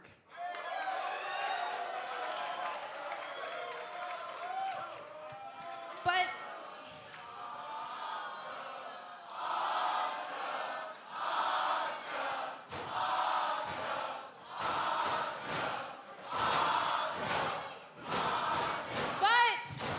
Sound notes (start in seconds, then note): 0.2 cheers and applause; 9.7 fans chanting